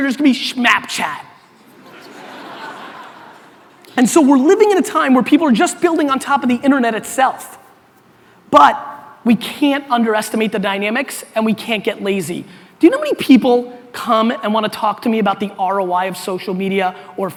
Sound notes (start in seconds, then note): 1.6 audience laughter